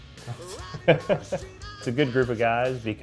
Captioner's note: laughs